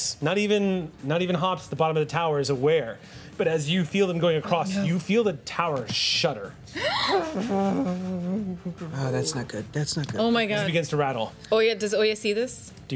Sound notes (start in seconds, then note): 6.7 gasps; 7.5 imitating metal grinding